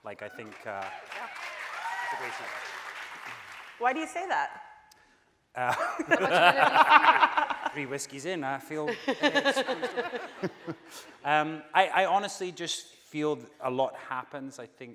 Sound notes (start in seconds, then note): 0.2 audience cheering; 5.7 laughing; 9.6 voice muffled; 10.6 laughing